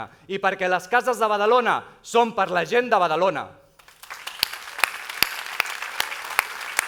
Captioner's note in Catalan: aplaudiments